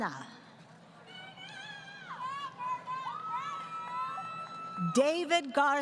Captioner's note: crowd Cheering